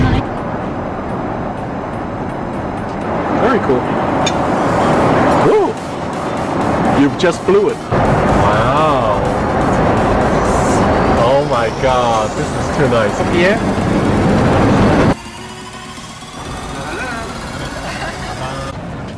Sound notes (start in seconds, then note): 14.7 flight ascending